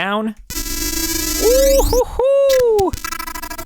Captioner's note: man whooping